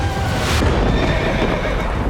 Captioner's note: thunder strike; horse dying noise